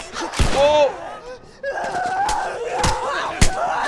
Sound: bullets zing; runner shrieks viciously; punches land

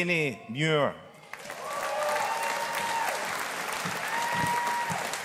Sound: audience applauding

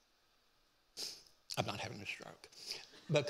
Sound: sniffs

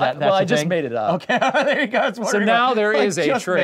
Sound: laughing

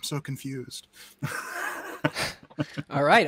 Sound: both laughs

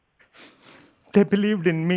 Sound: sobbing

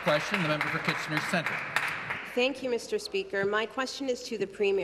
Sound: applause

